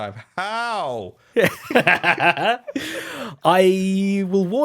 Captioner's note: laughter